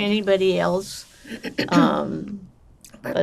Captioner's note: clears throat